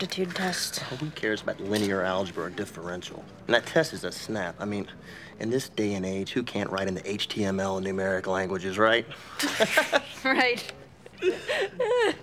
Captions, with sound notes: Well, who cares about linear algebra differential? That test is a snap. I mean, in this day and age, who can't write in the HTML and numeric languages, right? [laughs] Right.